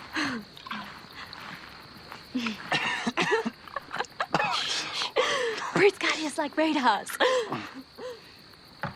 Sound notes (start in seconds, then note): 2.4 coughing